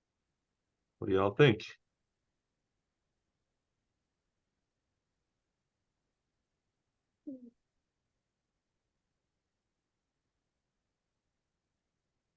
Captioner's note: silence